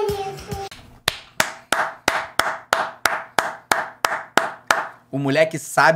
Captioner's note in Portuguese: batendo palmas